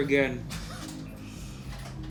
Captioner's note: laughs